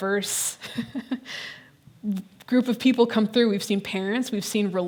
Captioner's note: laughing